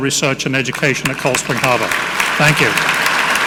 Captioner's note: audience clapping